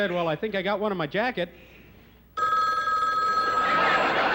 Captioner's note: telephone rings